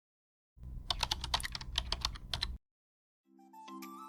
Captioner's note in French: Bruit de clavier